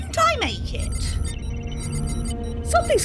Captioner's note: beeping alert noise